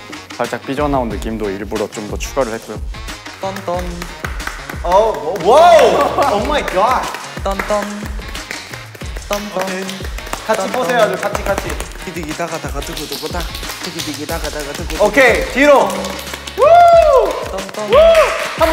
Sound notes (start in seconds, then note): 3.2 continues singing; 5.6 screams in shock; 8.9 SOUL applauds in awe; 16.5 cheers